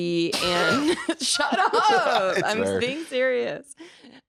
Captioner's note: laughing